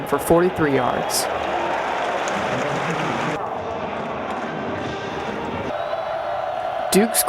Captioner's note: crowd noise and cheering